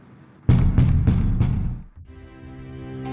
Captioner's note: door pounding